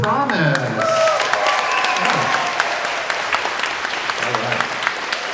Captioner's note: everyone applauding